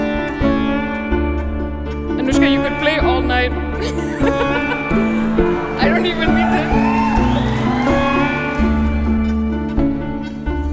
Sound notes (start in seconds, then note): 3.8 laughing; 7.6 audience cheering